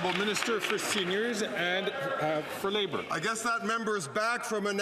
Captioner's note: some Applause